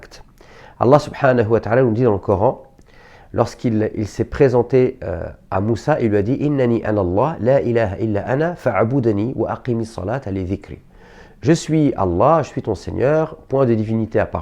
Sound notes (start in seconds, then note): 7.0 reciting verses in Arabic